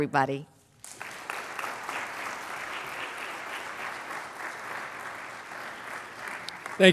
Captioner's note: applause